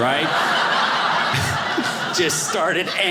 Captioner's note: audience laughing